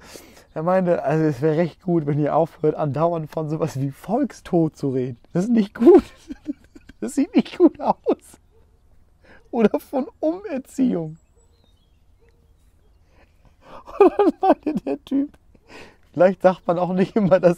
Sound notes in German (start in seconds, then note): 11.3 Gelächter